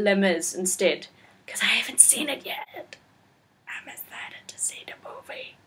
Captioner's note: whispers